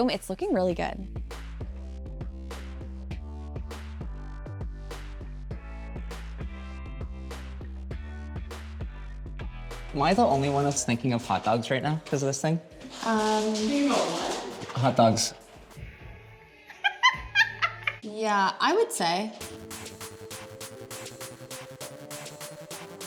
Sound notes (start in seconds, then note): 2.1 upbeat music; 16.6 laughs; 19.4 upbeat music